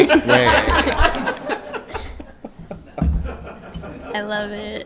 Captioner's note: board laughing